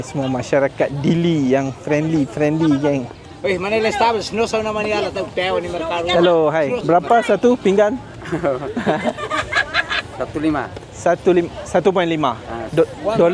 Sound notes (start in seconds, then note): 3.5 speaking Tetum; 8.1 laugh